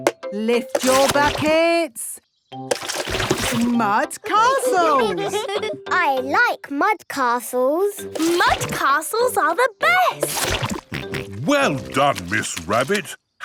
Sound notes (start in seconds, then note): 4.2 all giggling